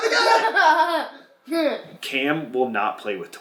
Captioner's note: laughing